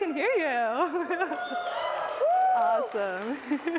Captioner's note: cheering